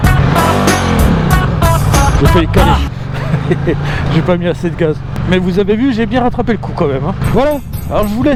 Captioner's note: laughter